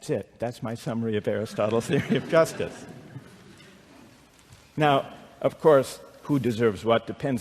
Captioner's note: laughter